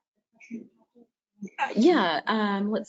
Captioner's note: speaker speaks faintly